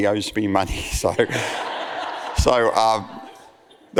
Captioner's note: audience laughs